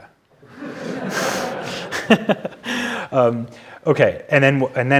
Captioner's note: audience laughing